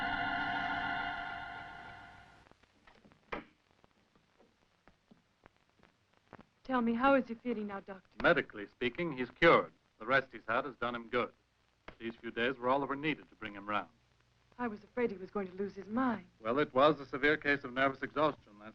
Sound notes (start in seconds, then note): 3.5 door opening